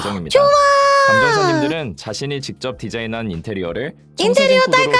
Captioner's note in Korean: 비명